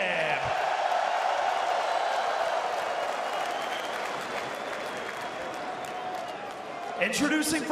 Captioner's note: crowd cheering